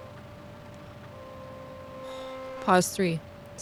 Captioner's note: VHS playing sounds